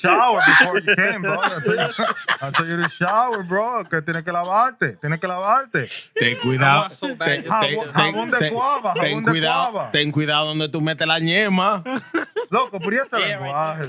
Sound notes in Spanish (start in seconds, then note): 4.0 Hablando en idioma extranjero; 8.0 Hablando en idioma extranjero; 8.0 Riendo